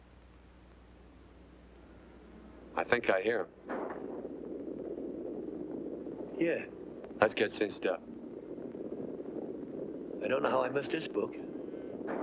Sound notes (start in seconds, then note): 3.6 distant gunshot & hooves pounding; 12.0 distant gunshots & hooves pounding